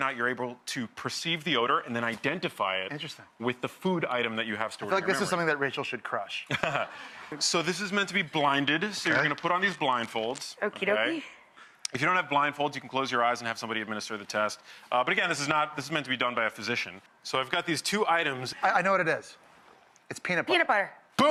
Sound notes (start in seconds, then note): 6.5 laughs